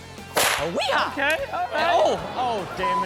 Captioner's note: Chanel and audience laughing; whip cracks